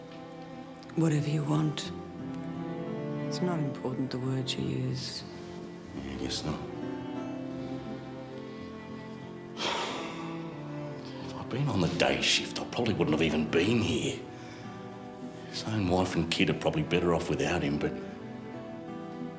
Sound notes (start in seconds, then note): 9.5 sighs